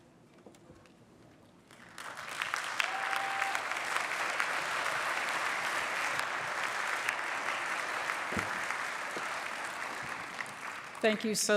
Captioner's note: applause